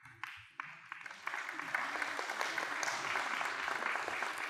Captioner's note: applause